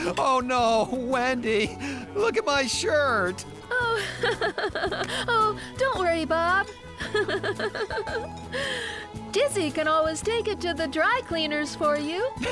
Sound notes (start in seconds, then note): 3.7 laughing; 7.0 laughing